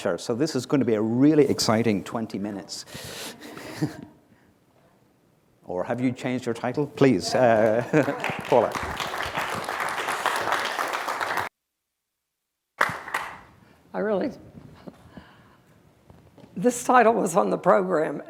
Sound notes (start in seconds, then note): 3.4 laughter; 7.2 applause